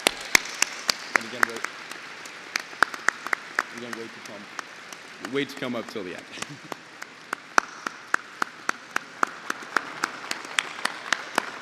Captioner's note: applause